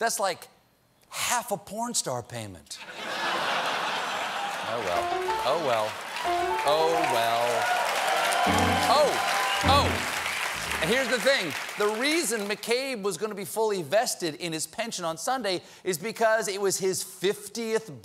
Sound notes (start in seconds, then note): 2.8 laughter; 8.4 piano riff